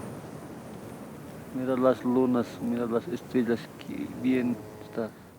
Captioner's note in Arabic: الصوت المنطوق باللغة الكيتشوا